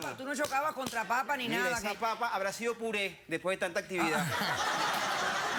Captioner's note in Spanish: risas